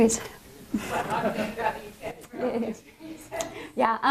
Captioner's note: laughter, inaudible question